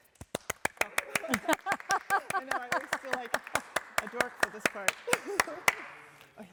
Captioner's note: audience clapping; laughs